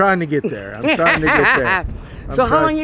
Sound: laughs

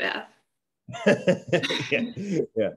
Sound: laugh

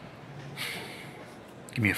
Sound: sigh

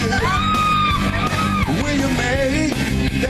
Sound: ladies cheering

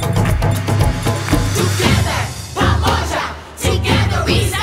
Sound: all chanting

